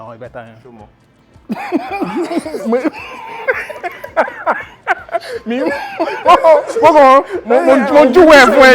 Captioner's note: everyone laughs